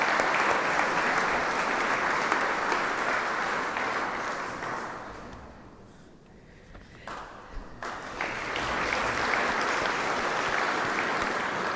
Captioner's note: applause